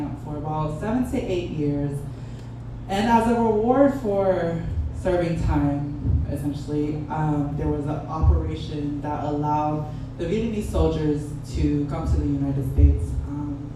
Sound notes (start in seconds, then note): none